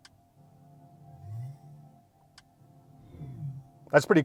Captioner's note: engine revving